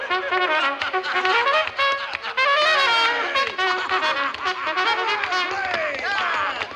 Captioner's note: ALL LAUGHlNG